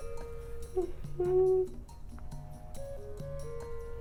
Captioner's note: humming